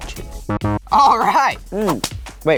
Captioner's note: buzzing